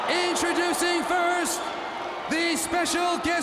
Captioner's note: crowd cheering